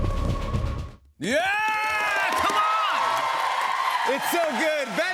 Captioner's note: cheers and applause